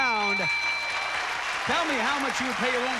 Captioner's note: applause